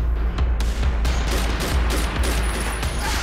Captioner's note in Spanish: Disparos